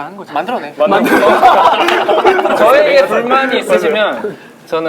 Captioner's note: laughing